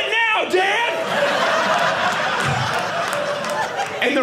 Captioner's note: audience laughing